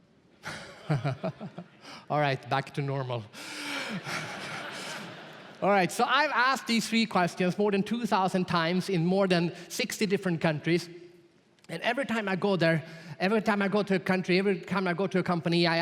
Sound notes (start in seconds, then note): 0.5 laughs; 3.9 audience laughs